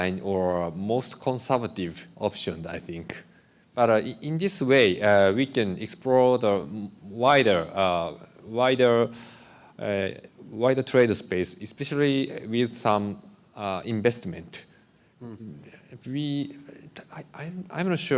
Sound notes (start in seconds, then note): none